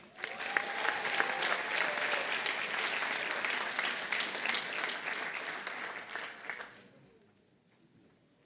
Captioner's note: applause